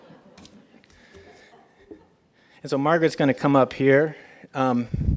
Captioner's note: laugh